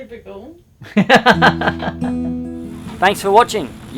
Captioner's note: laughing